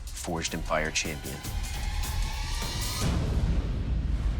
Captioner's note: dramatic sound effect